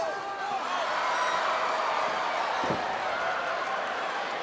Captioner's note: audience cheering